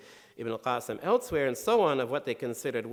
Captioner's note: speaking in foreign language